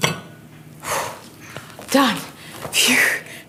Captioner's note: exhales